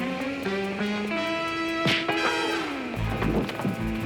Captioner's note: thuds; tense music